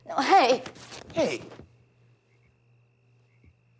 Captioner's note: fabric rips